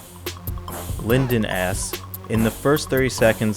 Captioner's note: voiceover